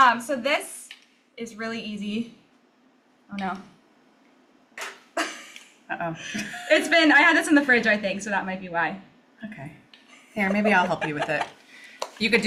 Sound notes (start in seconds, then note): 4.5 laughs